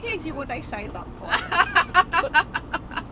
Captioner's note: laughs